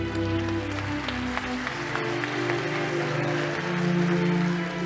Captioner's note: audience applauding